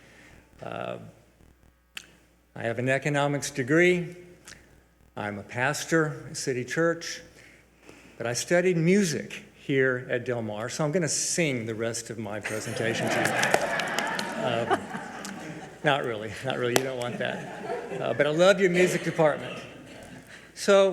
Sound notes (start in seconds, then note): 12.4 audience laughs